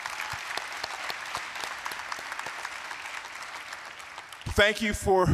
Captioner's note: applause